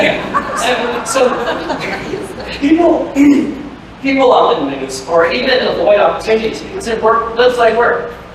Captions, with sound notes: (laughter) So. (laughter) People. (clears throat) People often lose or even avoid opportunities because it work... looks like work.